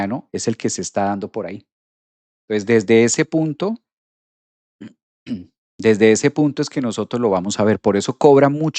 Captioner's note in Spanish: carraspeo